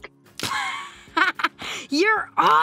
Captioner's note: laughs